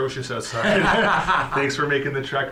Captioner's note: laughter